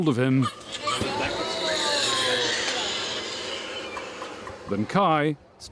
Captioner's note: baby crying